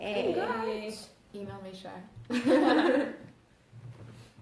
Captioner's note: laughter